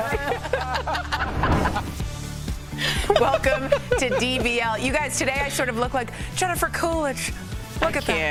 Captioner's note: laughter